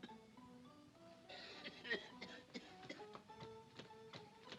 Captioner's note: coughs